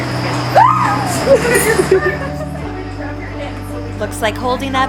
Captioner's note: screams